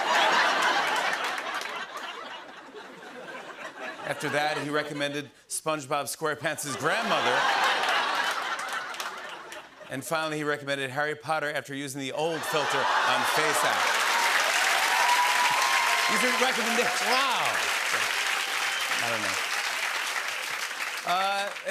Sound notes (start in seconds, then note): 0.0 laughter; 6.7 laughter; 14.2 cheers and applause